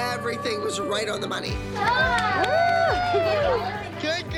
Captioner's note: cheering